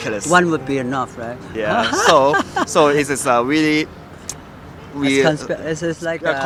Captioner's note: laughs